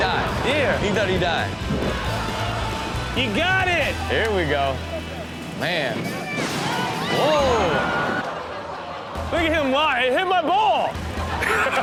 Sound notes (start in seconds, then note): 8.3 audience gasps; 11.0 audience laughs